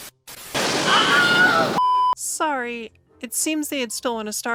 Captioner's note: Wilhelm Scream